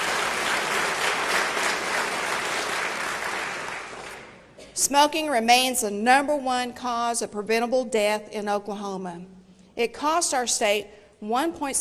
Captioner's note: applause